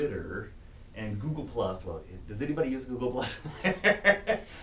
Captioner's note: laughs